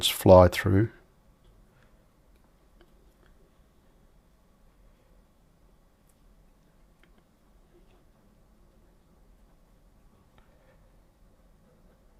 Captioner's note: silence